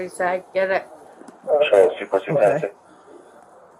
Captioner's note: radio chatter